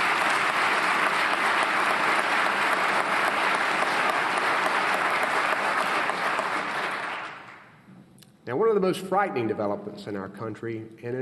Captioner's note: applause